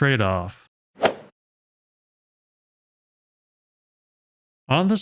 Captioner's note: golf swing sound effect